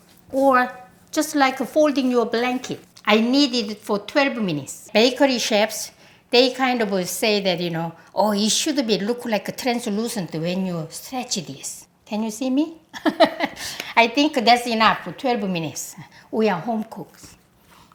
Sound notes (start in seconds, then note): 13.0 laughs